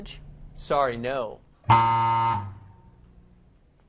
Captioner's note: buzzing